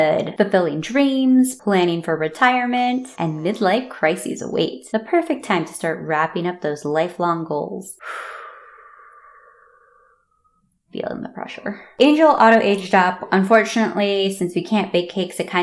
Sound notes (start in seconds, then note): 8.0 big exhale and side eye